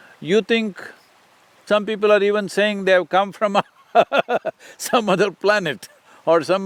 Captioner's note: laughs